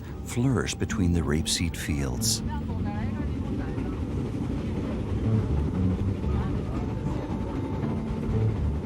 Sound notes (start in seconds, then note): 3.0 speaking in foreign language